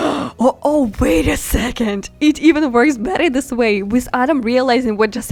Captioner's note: gasp